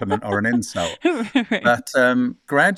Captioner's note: laughs